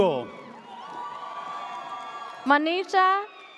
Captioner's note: audience cheers